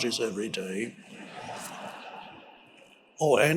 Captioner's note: audience laughing